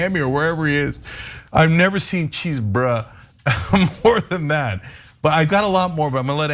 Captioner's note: laugh